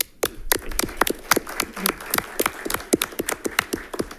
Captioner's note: all clapping